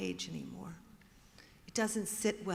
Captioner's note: none